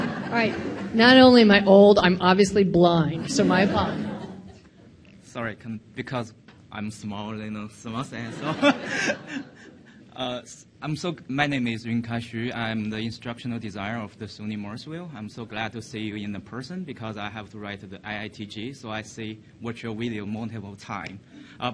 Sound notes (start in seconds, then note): 0.0 audience laughing; 8.2 audience laughing